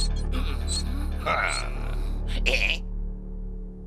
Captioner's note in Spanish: Sullivan ríe